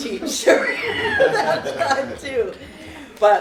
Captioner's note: laughter